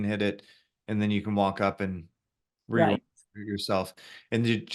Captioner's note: voice cuts out